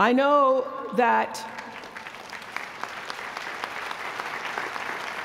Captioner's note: applause